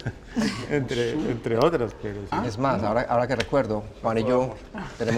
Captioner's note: laughter